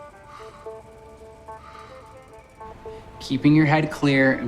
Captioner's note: steady deliberate breathing